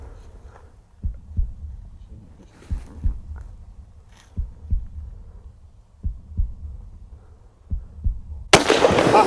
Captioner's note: heartbeat; gunshot